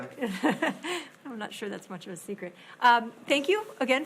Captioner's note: laughs